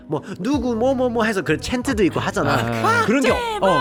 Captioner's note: chants and fan cheers